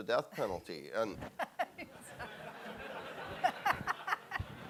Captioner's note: laughing